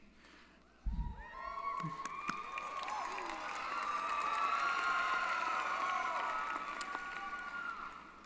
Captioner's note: applause & Cheering